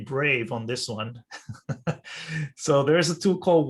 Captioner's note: laughs